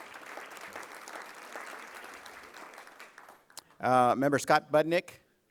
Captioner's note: applause